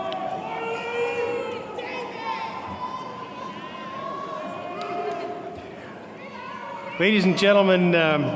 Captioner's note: cheering